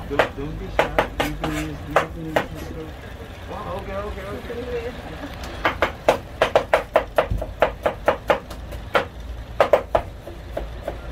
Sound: chopping Noise

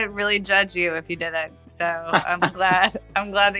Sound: <Laugh>

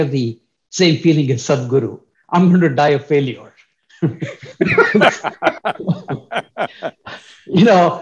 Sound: laughter

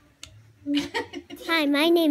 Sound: laughing

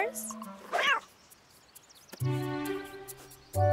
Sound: cat meows

